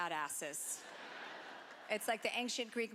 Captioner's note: laughter